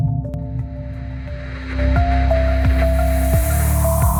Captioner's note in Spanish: estática